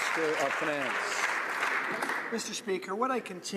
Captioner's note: some Applause